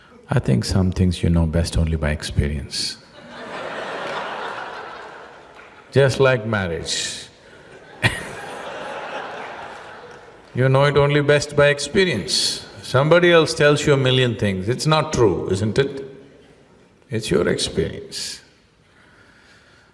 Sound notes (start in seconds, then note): 4.2 laughter